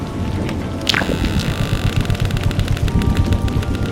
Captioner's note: door then creaks open